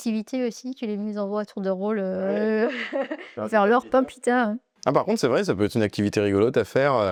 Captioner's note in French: rires